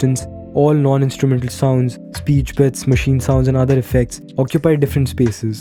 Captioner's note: speech bits, machine sounds, and other effects